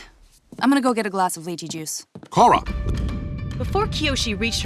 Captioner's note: none